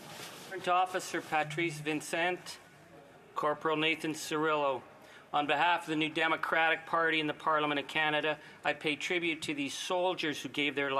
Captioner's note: speaking French